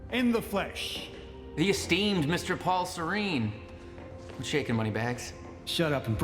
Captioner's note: mocking